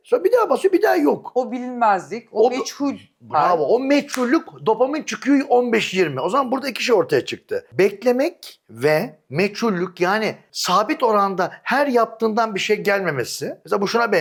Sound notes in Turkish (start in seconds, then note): 3.9 boğazını temizler